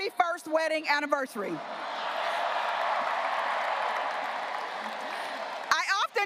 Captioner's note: graduates cheering and applauding